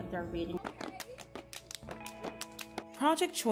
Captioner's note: sorority crowd clapping and cheering